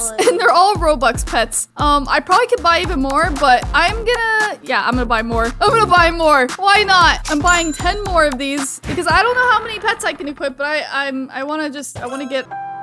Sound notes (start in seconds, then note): 7.4 cash register dings